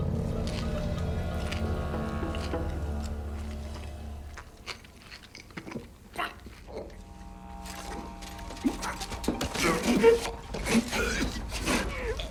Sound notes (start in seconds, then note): 0.1 sound of chewing; 7.2 sound of choking